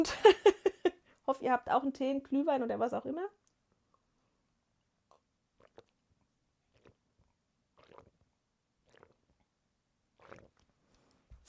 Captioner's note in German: gelächter